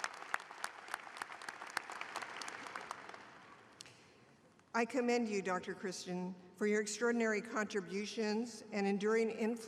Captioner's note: applause